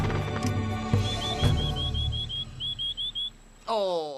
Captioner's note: whistling